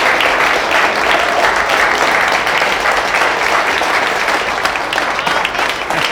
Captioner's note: prisoners applauding